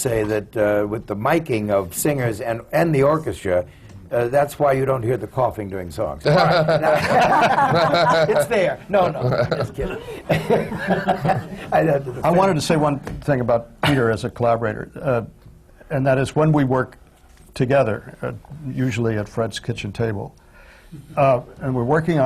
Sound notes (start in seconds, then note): 6.2 laughter